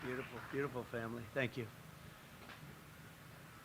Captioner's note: applause